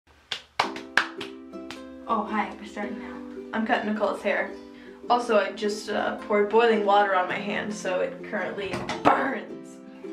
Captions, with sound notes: *clap clap clap snap* Oh, hi, we're starting now. I'm cutting Nicole's hair. Also, I just poured boiling water on my hand so it currently BURNS.